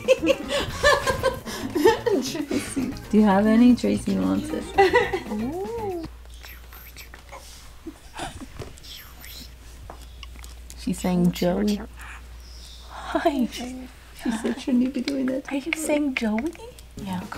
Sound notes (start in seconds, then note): 0.0 laughs loudly; 4.8 laughs loudly; 6.4 parrot talking